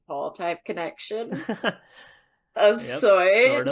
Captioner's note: laughs